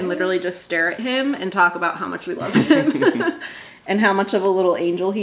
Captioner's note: giggles